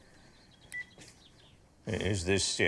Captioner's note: phone beeping